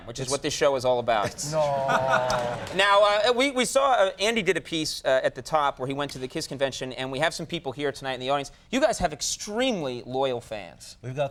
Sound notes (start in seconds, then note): 1.2 audience chuckles